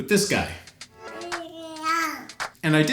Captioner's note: cute baby noise